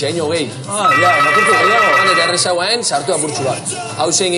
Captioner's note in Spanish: suena timbre